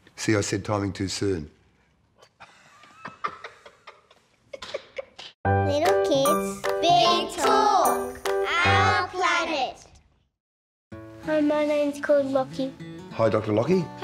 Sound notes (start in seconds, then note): 2.4 laughter